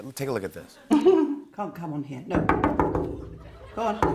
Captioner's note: knock on window